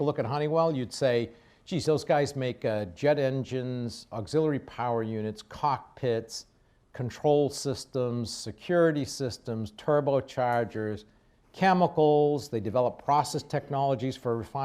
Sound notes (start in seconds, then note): none